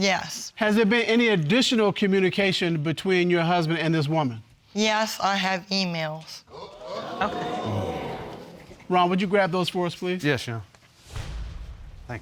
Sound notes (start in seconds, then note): 6.5 audience exclaiming